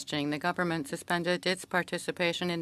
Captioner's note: speaking French